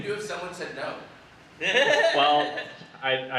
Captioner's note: audience laughter